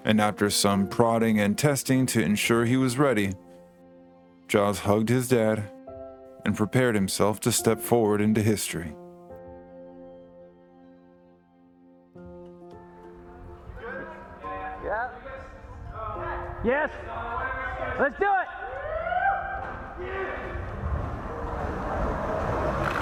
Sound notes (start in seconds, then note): 13.7 background chatter and shouting fades in; 18.6 whooping in background; 19.6 rolling skateboard grows louder